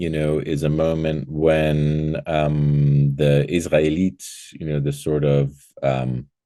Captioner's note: speaking foreign language